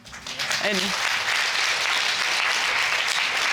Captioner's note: audience applauding